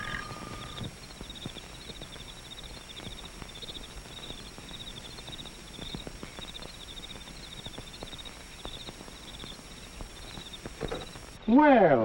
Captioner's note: doorbell rings; crickets chirping